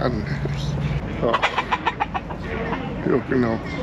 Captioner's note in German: Huhn gaggert